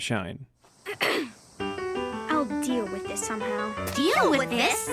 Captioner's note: ahem